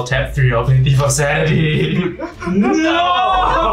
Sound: laughs evilly

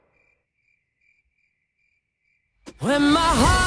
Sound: crickets chirping

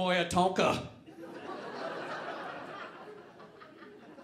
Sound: audience laughing

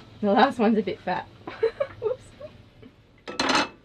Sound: laughs

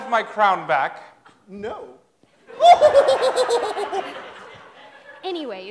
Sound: laughter

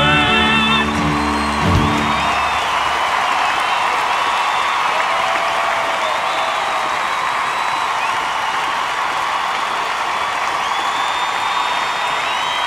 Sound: cheers and applause

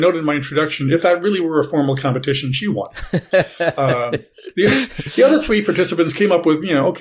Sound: laugh

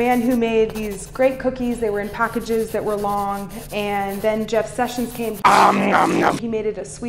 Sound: chomp chomp

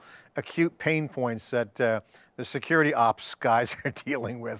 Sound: laughing

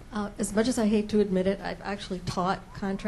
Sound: voiceover

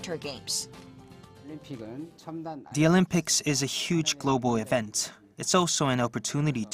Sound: Korean

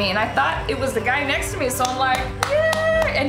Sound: clapping

